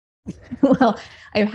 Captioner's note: laughs